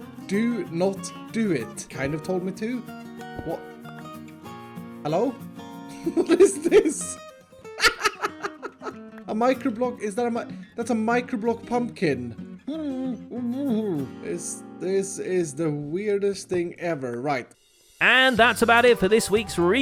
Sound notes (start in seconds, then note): 7.7 laughter; 7.7 more laughter